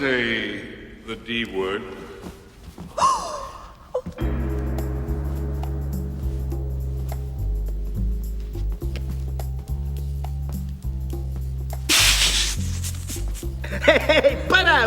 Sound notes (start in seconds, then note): 3.0 gasp; 12.6 laughs